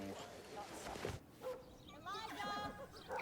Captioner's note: dog barks